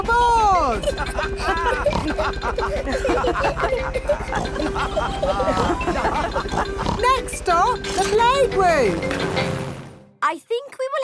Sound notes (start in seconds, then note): 0.6 all laughing and snorting